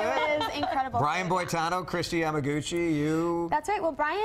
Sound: laughter

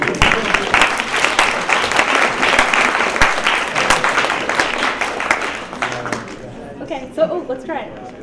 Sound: applause

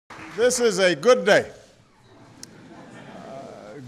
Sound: applause

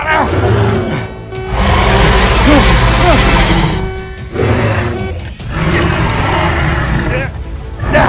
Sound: albertosaurus roaring

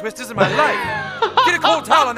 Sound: doctor laughing

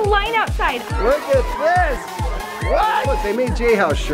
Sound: kids yelling

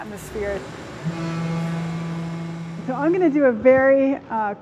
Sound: horn blowing

